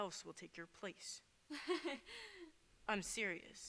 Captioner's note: PORTIA laughs